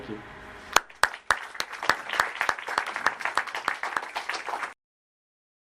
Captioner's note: audience applauds